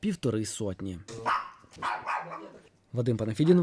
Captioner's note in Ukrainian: Гавкіт пса